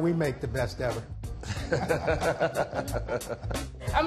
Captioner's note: both laugh